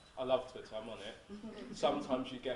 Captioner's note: audience laughs